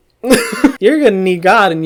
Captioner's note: laughs